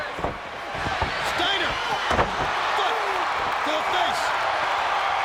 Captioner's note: crowd cheering